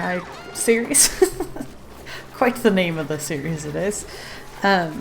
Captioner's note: laughs